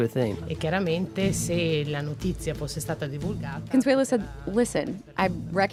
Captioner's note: speaks in Italian